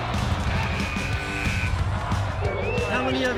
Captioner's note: buzzer buzzing